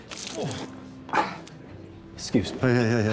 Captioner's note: exhales